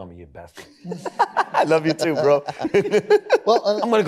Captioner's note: laughs